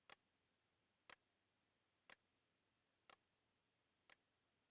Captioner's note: watch ticking continues